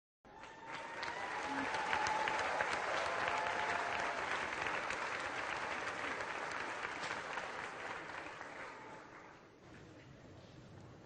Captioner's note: applause